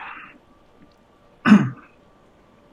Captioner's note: coughs